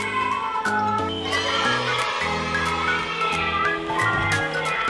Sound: and the adorable cheers♥

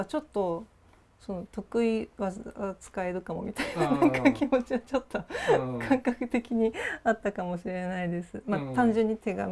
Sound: laugh

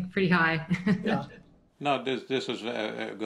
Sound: chuckles

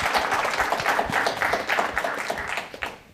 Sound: applause

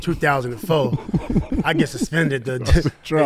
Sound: laughing

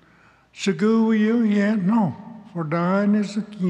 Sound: speaks Cherokee

